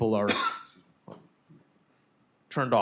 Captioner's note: coughing